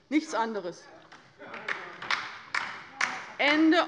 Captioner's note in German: Beifall bei der LINKEN